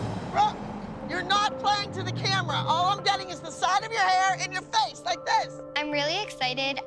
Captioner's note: none